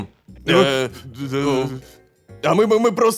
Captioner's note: frightened voices